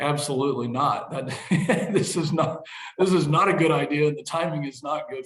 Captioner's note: laughs